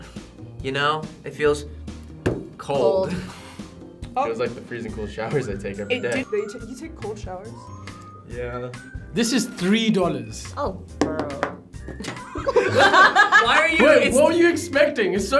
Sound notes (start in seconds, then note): 12.0 both laugh